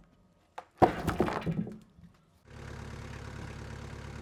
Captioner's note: wood falling against log; engine running calmly